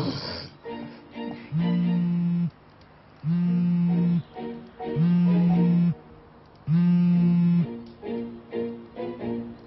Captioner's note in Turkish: Telefon çalıyor